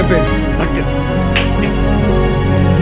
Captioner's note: slap